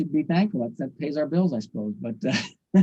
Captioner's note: chuckles